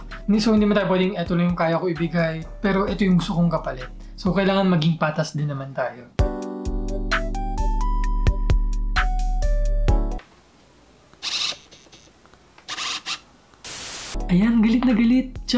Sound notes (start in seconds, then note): 11.2 autofocus motor sound; 13.5 static sound